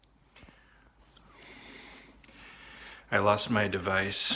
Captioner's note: breathing heavily